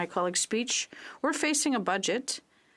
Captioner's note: speaking French